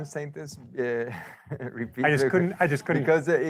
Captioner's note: chuckles